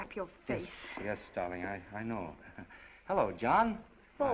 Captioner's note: chuckles